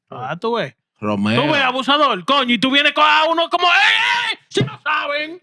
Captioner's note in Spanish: Hablando en idioma extranjero